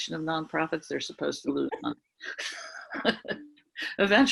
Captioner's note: laughs